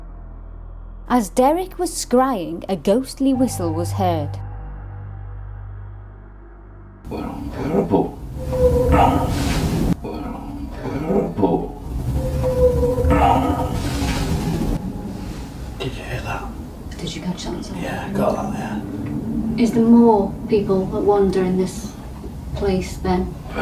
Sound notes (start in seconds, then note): 8.0 whistling sound